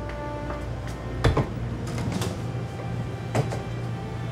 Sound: freezer whirring; door clicks

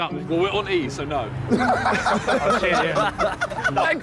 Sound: all laughing

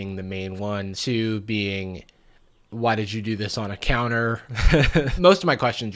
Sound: laughs

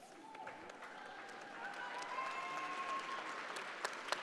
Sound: audience applauding

